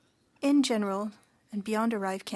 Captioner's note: speaking French